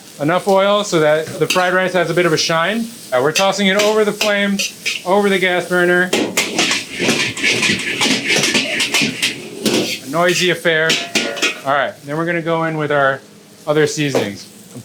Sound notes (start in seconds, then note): 6.8 wok clanging